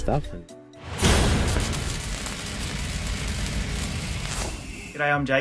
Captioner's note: crackling sounds